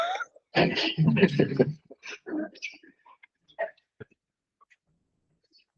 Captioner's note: scattered laughs